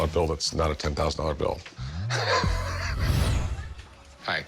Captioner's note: laughs